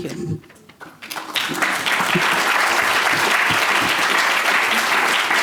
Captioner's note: applause